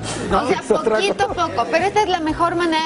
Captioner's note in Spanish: risas